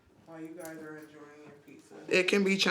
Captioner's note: chattering